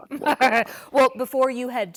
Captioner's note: laughter